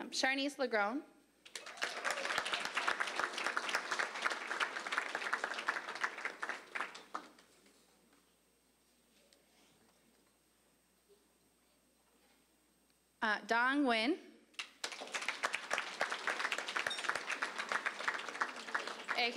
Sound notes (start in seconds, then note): 1.4 applause; 14.6 applause